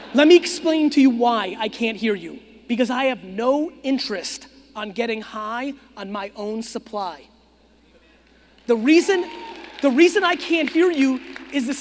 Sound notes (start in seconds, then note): 8.6 audience clapping